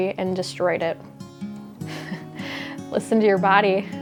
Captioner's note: chuckling